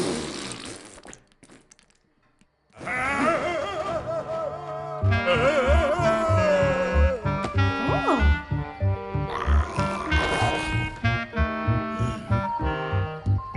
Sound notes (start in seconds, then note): 2.7 groans; 5.4 playful music; 9.3 growls